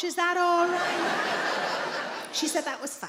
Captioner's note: audience laughs